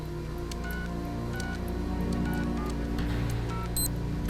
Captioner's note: machinery beeps